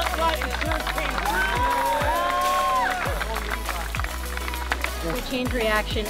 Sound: crowd cheering; upbeat background music

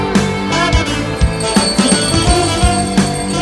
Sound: prayer bell ringing

